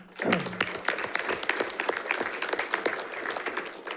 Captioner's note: audience applauding